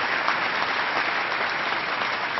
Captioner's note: applause